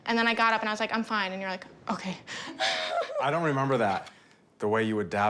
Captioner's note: laughs